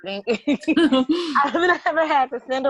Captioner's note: all laugh